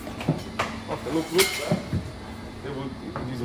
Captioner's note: utensil clanking